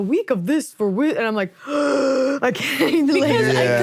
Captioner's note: gasps